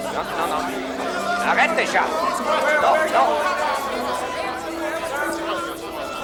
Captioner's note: John yells in French